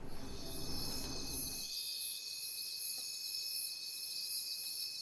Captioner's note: insects chirping